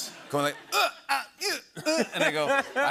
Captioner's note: grunting